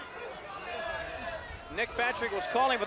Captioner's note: crowd chatter